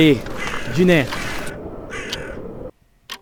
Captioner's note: croaking; clock